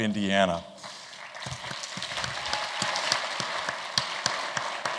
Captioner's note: applause